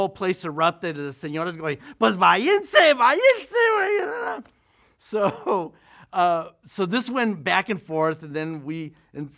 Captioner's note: Spanish language